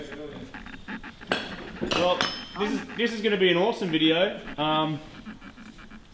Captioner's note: metallic clanging